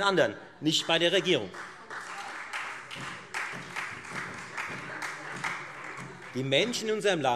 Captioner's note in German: Beifall Freie Demokraten und vereinzelt SPD